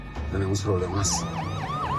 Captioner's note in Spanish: Sirenas